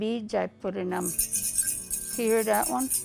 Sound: rattles

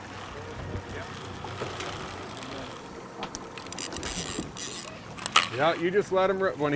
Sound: reel spinning

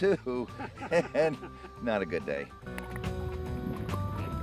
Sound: laughing

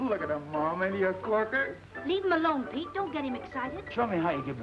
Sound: none

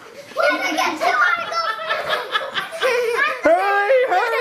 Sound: laughing

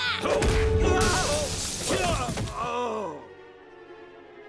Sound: Loki grunting, groaning

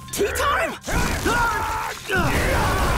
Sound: grunting

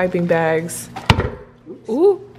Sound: stand mixer drops

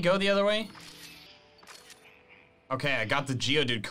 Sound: photo snapping

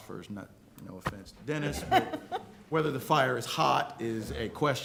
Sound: laughter

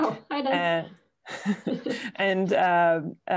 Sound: laughter

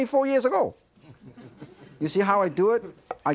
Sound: audience giggling

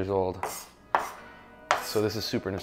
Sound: knife clattering

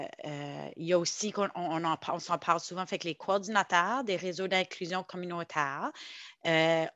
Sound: French

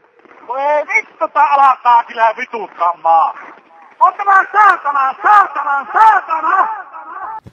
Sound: lot's of angry Finnish swearing

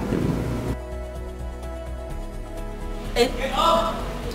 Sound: stuttering

